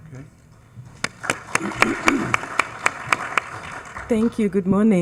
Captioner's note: attendees applauding